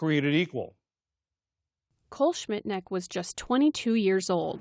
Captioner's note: voice-over